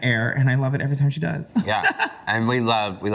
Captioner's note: laughs